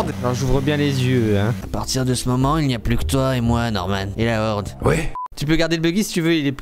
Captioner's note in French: voix sensuelle